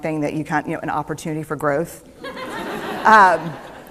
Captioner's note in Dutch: Gelach